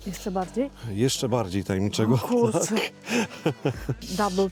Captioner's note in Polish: śmiech